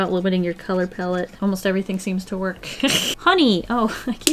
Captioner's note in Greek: Γέλια